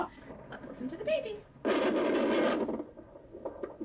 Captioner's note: gurgling; heartbeat